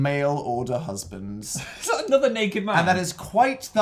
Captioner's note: laughs